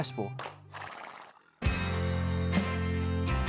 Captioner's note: horse blusters